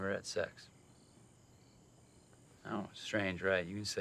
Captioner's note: crickets chirping